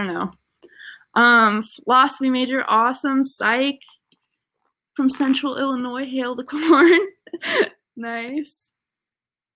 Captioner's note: laughter